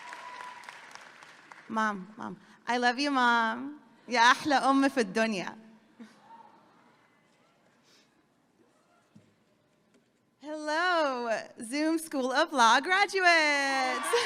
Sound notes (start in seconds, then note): 4.3 speaking a foreign language; 14.0 audience clapping and cheering